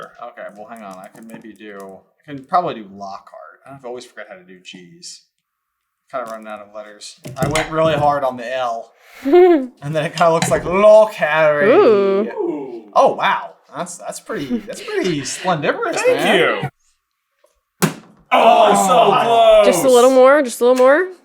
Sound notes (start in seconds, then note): 9.2 chuckles